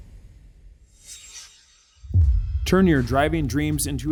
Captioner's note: air swishing